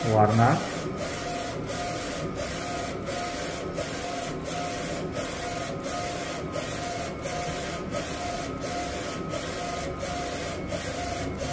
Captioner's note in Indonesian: suara mesin printer